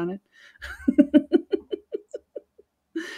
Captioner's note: laughing